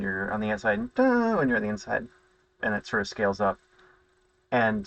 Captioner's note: low-pitched hum; high-pitched hum